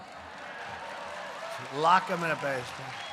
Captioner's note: applause